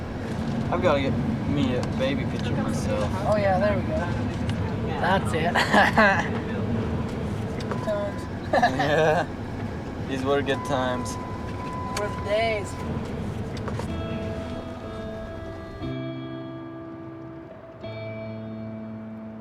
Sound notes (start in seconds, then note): 4.9 laughs; 12.4 somber music